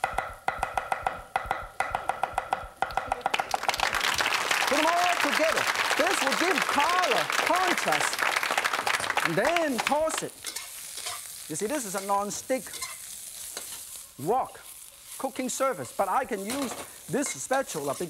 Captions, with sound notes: (audience applauding) put them all together. This will give color, conscious. And then pulse it. You see, this is a nonstick wok, cooking service but I can use this spatula